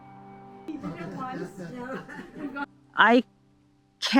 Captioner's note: everyone laughing